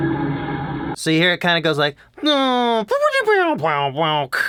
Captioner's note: imitates car noises